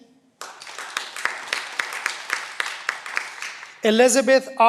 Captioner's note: cheering